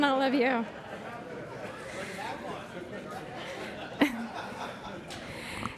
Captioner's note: laughter